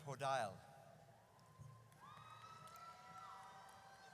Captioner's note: audience cheers